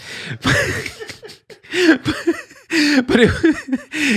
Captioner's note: laughs